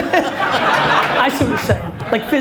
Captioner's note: audience laughs